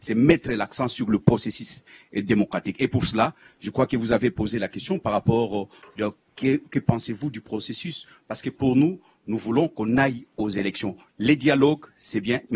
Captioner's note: in French